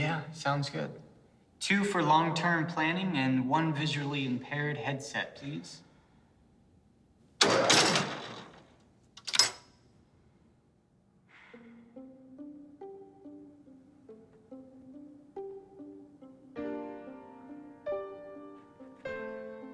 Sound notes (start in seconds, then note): 7.4 machine clicks; 11.5 soft music